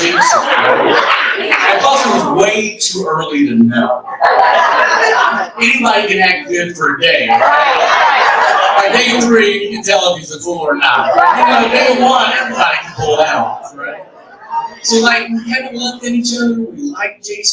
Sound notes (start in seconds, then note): 7.2 audience laughs